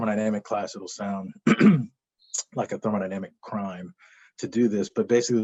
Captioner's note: cough